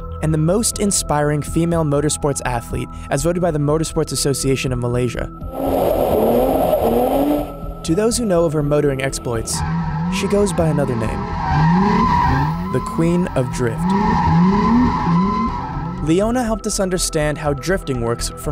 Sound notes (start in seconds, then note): 5.7 engine roaring; 5.7 tires squealing